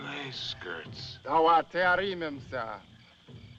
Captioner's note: speaking African Language